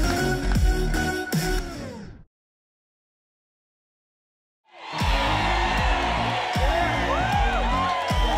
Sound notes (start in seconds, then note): 4.7 crowd cheering